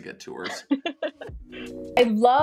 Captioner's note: laughs